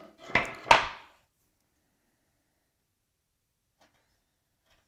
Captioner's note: plank on desk clacking